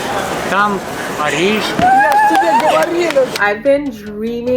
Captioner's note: speaking Russian; both speaking Russian; cheers